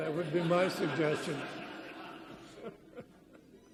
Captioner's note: audience laughs; chuckles